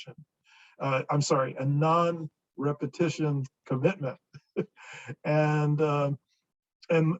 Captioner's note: chuckles